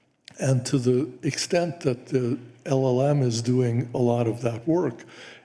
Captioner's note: none